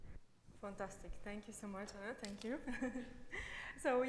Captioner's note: laughs